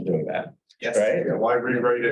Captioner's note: hubbub